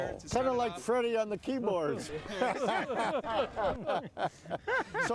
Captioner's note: everyone laughing